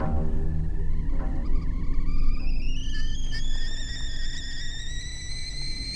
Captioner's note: eerie, foreboding music; kettle whistling